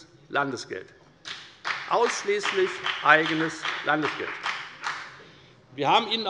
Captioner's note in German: Beifall bei der FDP